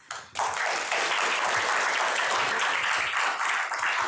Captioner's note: applause